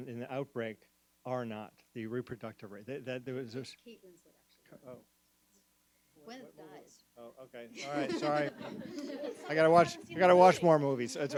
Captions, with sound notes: in the outbreak, R0, the reproductive rate. - Kate Winslet, actually. Gwyneth dies. - Okay, all right, sorry. (everyone laughs) - I gotta watch more movies.